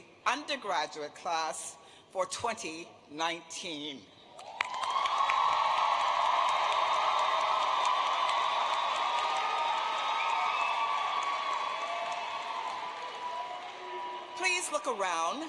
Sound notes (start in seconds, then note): 12.0 applause